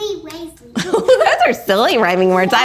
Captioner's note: woman laughing